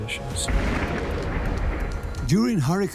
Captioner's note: thunderclap